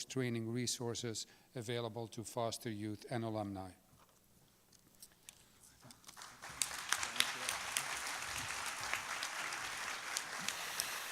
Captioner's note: applause